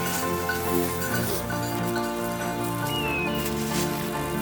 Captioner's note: leaves rustling; bird chirping